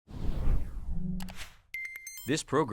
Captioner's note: logo whooshing